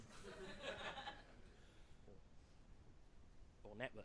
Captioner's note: audience chuckles